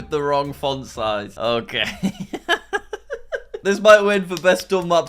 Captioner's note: laughing